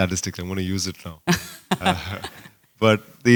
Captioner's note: laughter